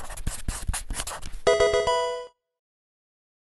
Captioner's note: marker scratching; Pokemon game sound